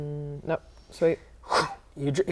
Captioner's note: whoosh